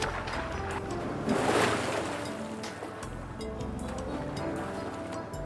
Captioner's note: water splashing